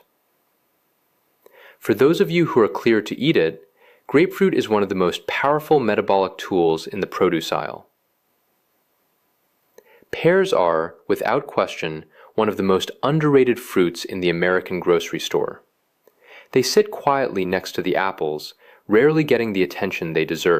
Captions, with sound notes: For those of you who are cleared to eat it, grapefruit is one of the most powerful metabolic tools in the produce aisle. [pause] Pears are, without question, one of the most underrated fruits in the American grocery store. They sit quietly next to the apples, rarely getting the attention they deserve.